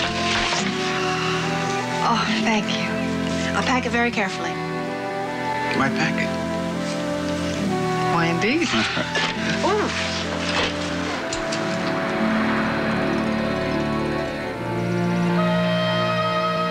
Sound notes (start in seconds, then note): none